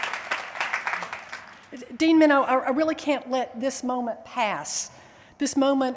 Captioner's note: applause